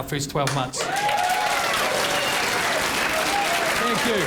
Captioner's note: crowd cheering and applauding